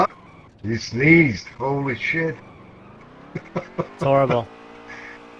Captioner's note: laughs